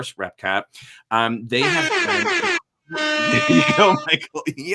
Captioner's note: siren wailing